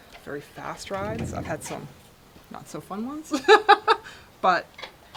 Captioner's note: laughs